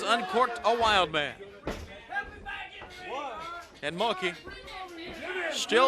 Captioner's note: crowd cheering